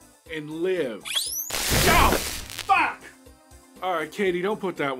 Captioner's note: electric shock